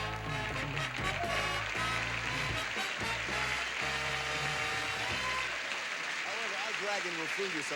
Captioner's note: audience applauding